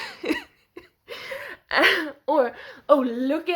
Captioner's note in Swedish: skrattar